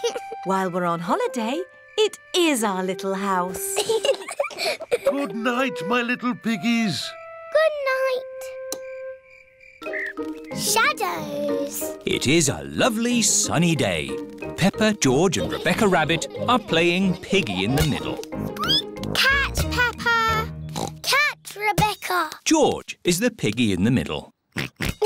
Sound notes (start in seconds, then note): 3.7 both laugh; 18.1 squeaks; 20.7 oinks